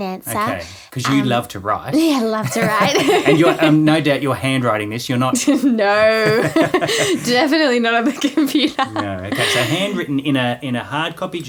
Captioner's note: both laughing